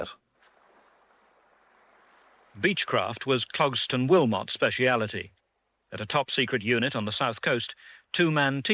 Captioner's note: voiceover